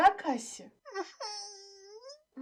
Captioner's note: whimper